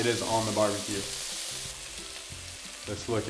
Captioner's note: meat sizzling